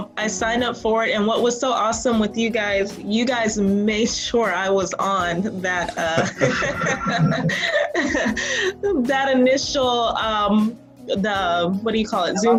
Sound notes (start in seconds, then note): 5.8 laughing